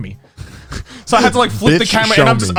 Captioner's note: laughing